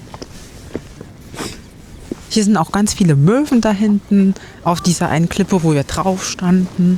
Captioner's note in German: schnauben